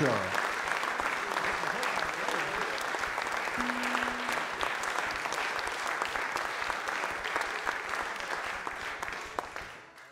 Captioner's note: audience Applause